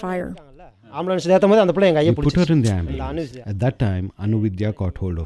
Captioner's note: in Tamil, with English voiceover